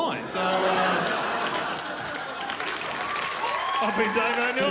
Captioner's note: crowd applaudes